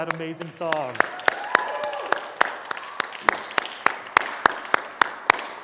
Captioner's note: applause